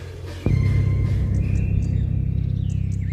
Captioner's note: jyrähdys